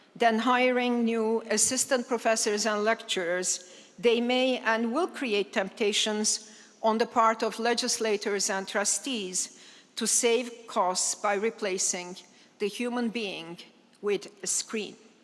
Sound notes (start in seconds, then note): none